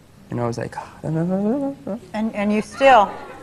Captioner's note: humming